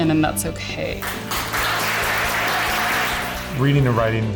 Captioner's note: applause